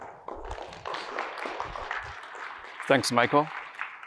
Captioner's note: applause